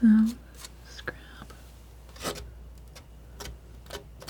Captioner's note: scratching